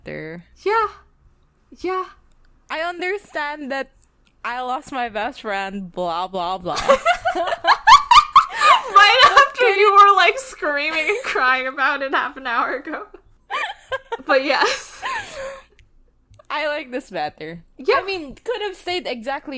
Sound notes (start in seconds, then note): 6.8 both laughing; 13.5 laughs